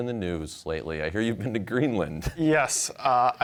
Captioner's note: chuckling